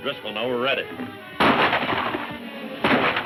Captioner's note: gun firing